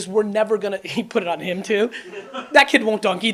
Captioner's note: audience laughs